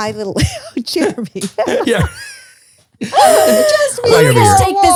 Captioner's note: laughs